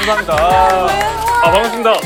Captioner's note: laughing out